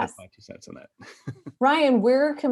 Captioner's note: laughing